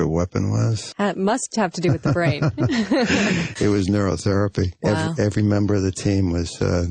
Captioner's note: laughs